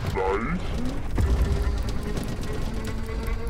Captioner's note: slight clattering